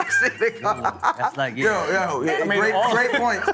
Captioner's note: all laughing